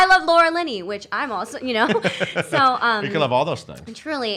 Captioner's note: laughs